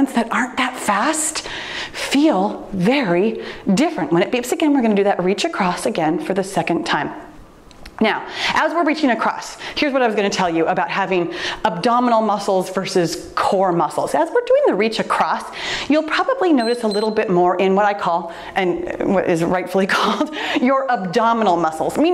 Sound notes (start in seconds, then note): 16.5 timer beeps